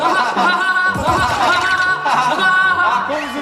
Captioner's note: hahahaha